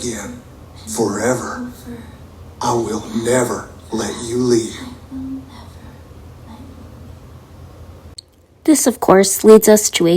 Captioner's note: whispering